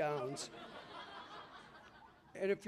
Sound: laughter

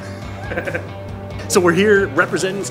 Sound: laughs

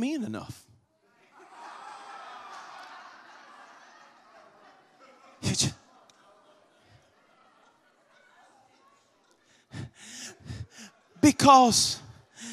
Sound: congregation laughs

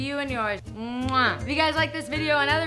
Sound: kissing noises

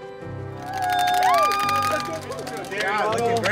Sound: crowd cheers

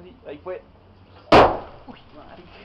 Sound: explosion

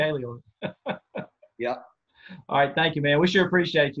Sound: laughter

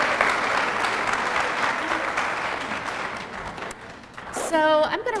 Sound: applause

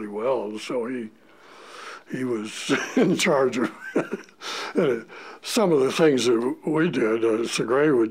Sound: chuckle

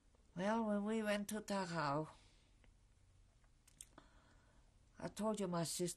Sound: pauses for 3 seconds

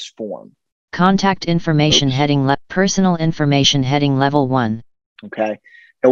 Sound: screen reader voice

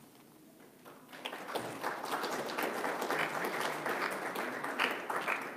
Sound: audience claps

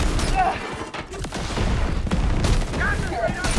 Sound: explosions; guns firing

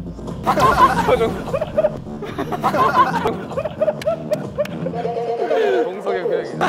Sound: laughing out loud

